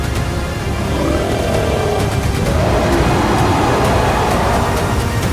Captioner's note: creature roaring